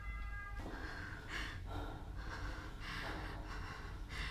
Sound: Ava pants

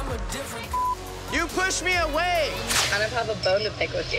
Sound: beep

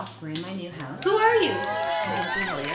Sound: audience applauding

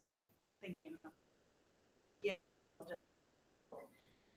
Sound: audio cuts

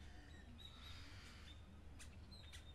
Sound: birds chirping

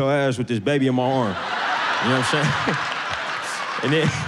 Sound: laughs

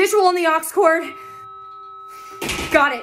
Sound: monitor flatline

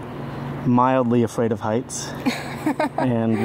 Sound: laughs

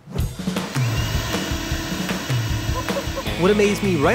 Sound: machine whirring

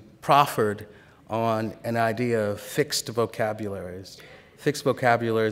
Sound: none

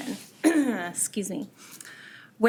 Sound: clears throat

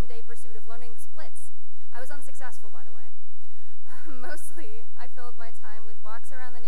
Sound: chuckles

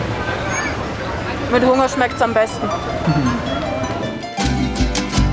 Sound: laughs

